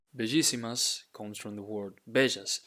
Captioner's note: speaking in Spanish